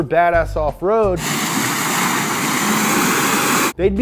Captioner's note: engine roaring